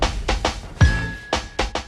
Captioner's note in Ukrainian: комп'ютер дзвонить